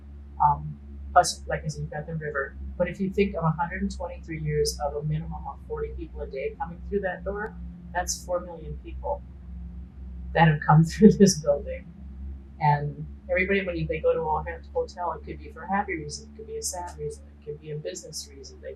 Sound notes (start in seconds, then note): 12.1 laughing